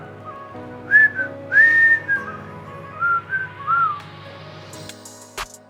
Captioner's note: microwave beeps; whistles